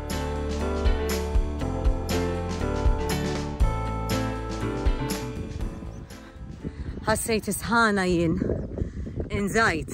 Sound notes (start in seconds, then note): 5.6 wind blowing